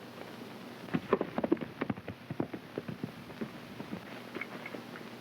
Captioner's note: hooves clopping